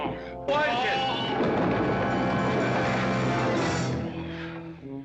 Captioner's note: tumbling down stairs